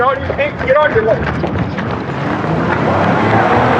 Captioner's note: footstepsps r runniningn